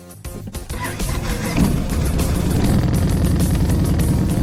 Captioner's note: motorcycle revving